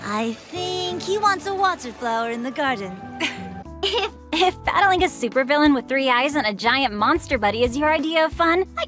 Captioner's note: giggle